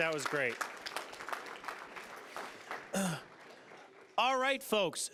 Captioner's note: applause